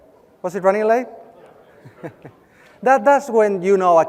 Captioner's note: laugh